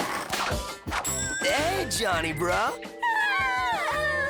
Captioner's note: rooster crows, sleepy moans